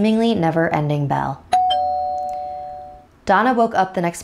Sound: doorbell rings

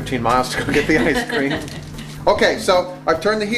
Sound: woman laughs

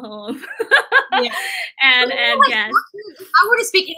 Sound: laughter

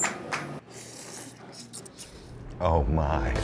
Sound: slurping

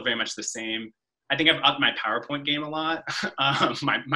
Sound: chuckles

